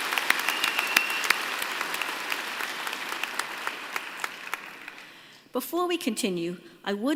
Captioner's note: applause